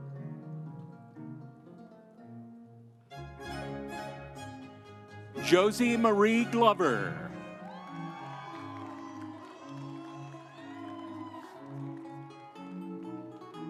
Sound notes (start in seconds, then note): 8.0 audience cheering; 10.3 instrumental music